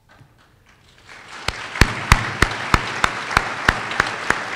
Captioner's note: applause